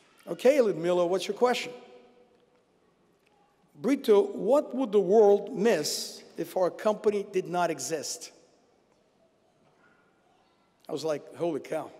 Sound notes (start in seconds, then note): none